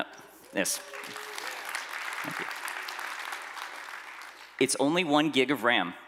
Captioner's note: applause